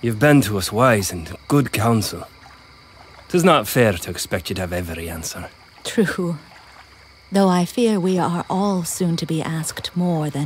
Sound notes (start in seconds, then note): none